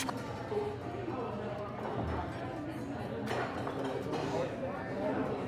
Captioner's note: background people chattering